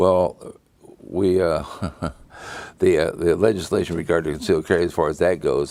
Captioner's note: laughing